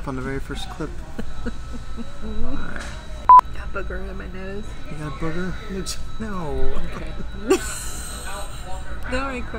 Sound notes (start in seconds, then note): 1.0 giggles; 3.2 beep; 7.0 laughs